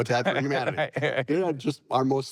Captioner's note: laughing